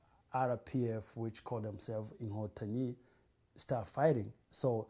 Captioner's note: non-english